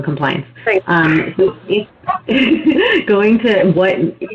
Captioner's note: laughing